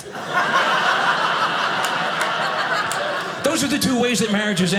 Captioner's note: audience laughing